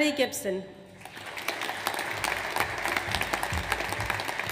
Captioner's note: audience applauds